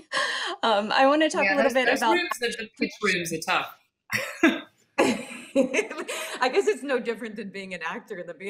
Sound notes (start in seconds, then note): 5.0 all laughing